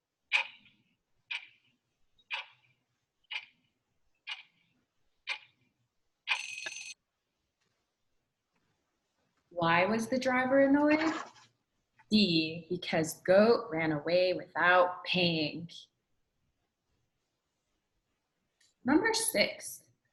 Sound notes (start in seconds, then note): 6.4 bell rings